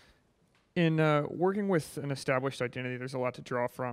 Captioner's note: voiceover